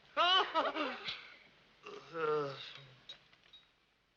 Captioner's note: Bertie laughs